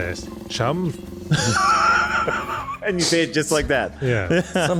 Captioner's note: laughter